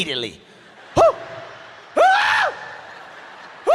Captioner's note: screams